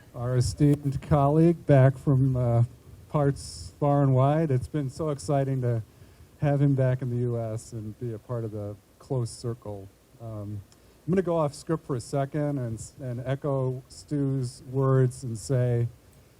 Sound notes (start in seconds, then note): none